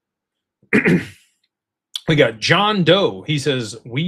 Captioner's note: clears throat